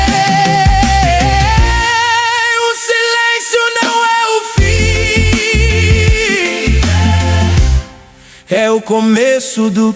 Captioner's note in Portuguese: grito